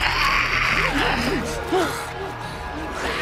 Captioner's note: demon screams; Philip struggling